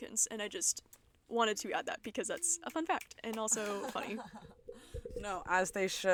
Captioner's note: snaps of appreciation